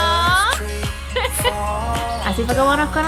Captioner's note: laugh